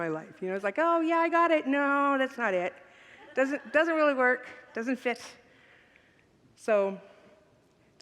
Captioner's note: congregants laugh